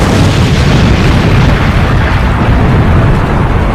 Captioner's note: bomb banging